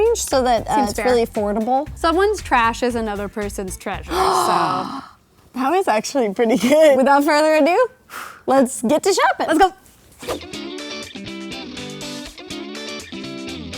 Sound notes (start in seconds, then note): 4.1 gasping; 10.4 upbeat music